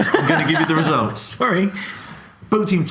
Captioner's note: laughs